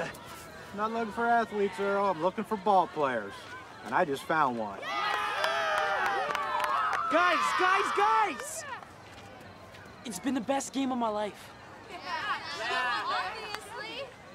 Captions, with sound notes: I'm not looking for athletes. I'm looking for ballplayers, and I just found one. [ Cheering ] Guys! Guys! Guys! It's been the best game of my life. Yeah. Yeah. Obviously.